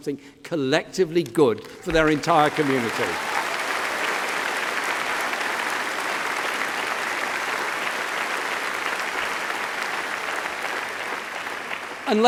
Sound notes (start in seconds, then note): 8.1 applause